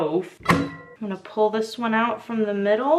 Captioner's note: cutter slams